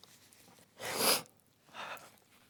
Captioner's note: pause; sniffles; pause